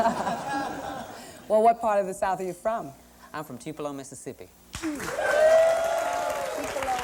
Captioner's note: laughter; whoops, cheers